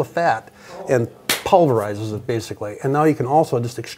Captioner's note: hands clapping